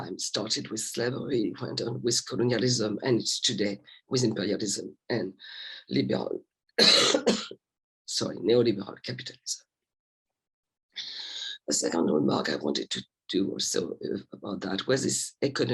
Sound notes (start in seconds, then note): 6.8 coughs